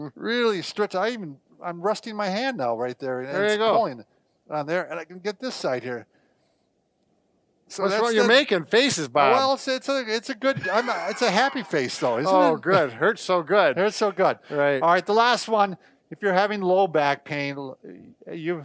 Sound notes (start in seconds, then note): 12.5 laughing